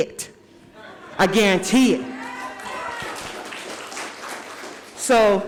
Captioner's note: audience cheers and applauds